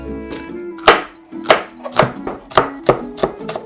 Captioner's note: knife cutting